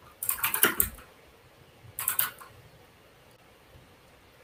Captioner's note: keyboard clacks